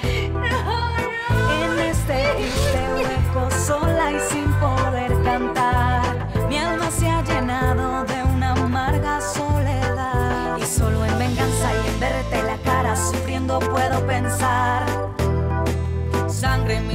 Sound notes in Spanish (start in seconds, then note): 3.9 Ovación